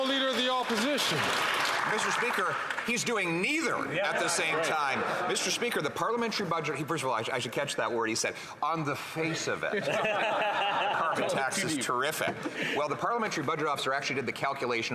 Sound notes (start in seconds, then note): 0.0 some Applause